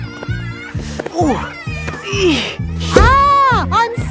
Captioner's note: grunting